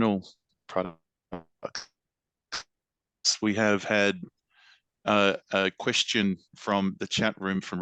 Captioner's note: digital noise